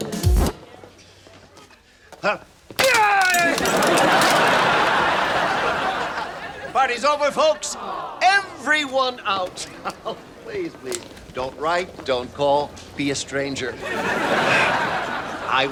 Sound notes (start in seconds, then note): 0.0 music stops; 2.8 yells